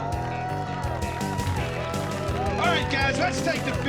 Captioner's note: cheers and applause